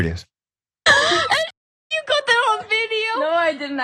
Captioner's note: laugh